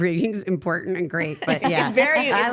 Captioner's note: everyone chuckling